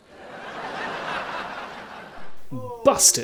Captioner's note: uproarious laughter